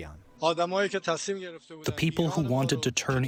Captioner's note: through translator